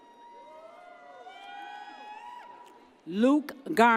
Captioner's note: audience cheers